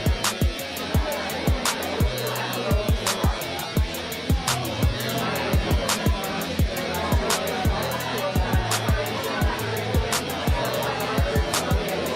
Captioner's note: crowd sounds